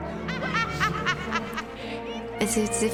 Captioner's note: bellatrix cackles